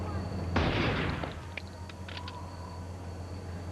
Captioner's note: gunshot